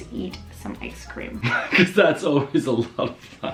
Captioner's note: laughs